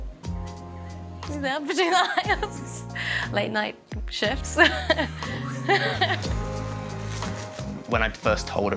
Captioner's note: laughs